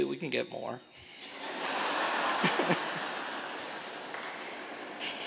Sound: laughter

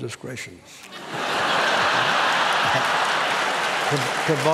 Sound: laughter

